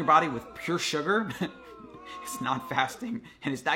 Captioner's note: chuckles